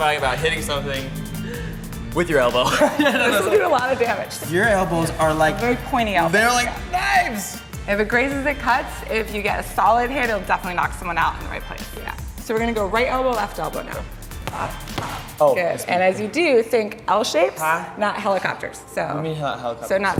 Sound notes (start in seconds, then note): 2.6 laughs; 14.3 elbow smacks